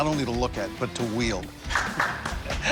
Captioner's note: clapping